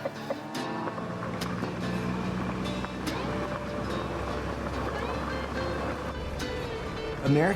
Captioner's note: chickens clucking; vehicle approaching